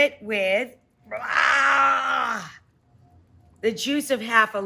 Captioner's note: growling